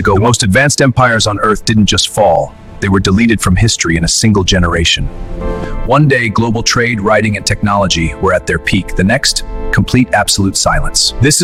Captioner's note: SFX: Deep cinematic thud + Sound of wind whistling through ruins